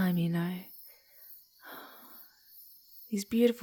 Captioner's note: sighing wistfully